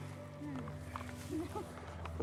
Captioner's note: laughs